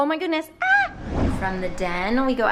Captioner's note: wooshing